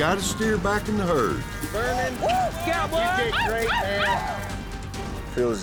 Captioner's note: cheering